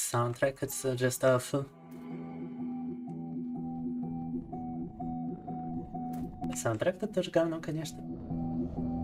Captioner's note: speaking in Russian